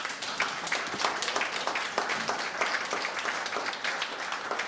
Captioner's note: applause